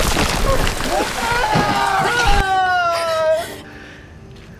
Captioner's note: martin screams